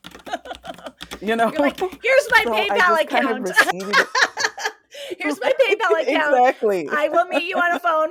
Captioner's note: laughter